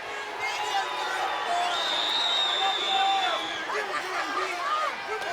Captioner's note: crowd and coaches yelling together